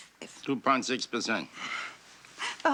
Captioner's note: sighs